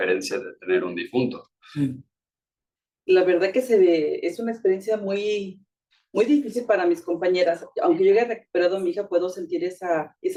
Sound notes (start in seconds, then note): 3.2 speaking Spanish